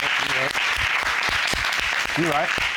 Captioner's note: audience applauds